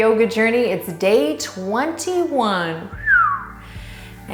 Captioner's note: whistles